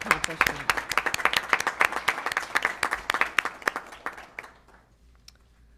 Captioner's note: applause